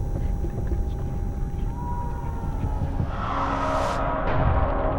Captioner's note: faint screaming